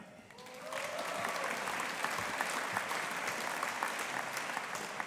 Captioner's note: audience applauding